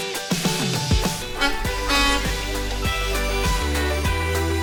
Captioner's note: bus horn honks